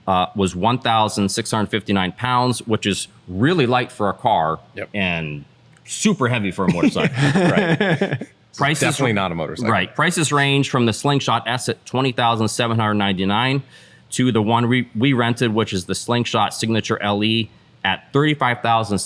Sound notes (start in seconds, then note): 6.7 laughter